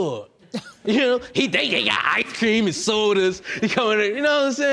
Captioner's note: laughs